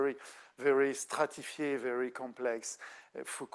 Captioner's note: speaking French